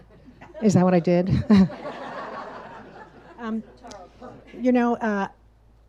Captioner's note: audience laughs